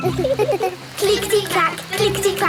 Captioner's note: laughing